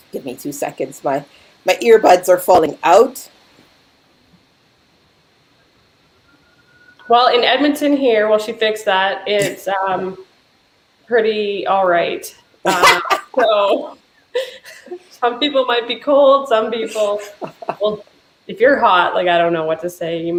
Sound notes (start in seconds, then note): 12.6 chuckling; 12.6 laughing